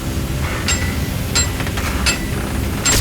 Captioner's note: clanging